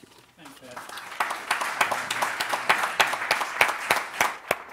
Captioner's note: applauding